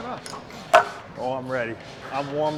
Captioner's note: weights clunk